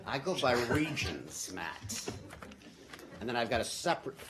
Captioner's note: laughter